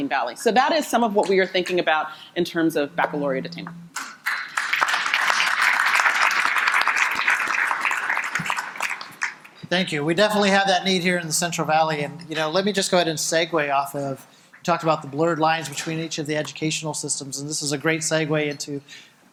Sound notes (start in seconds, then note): 4.0 audience applauding